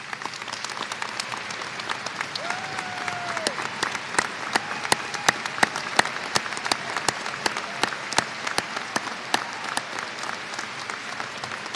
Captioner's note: applause